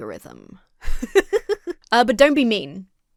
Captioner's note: laughs